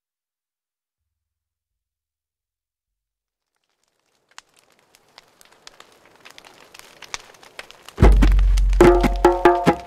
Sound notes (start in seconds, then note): 3.4 fire burning; 8.0 drums beating